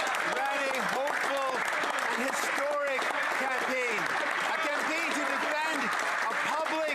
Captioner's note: some Applause